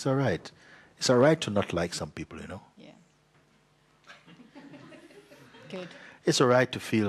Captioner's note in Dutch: zacht gelach